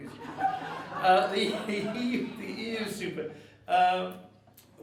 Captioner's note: audience laughing